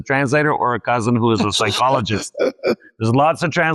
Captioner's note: laughs